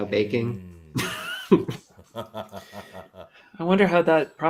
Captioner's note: laughter